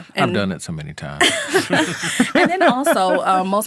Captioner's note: all laughing